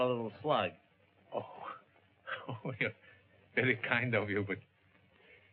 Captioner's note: chuckles